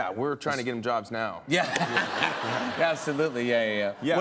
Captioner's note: laughter